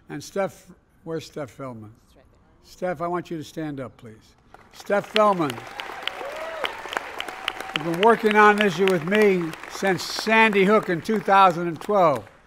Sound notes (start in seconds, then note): 6.6 applause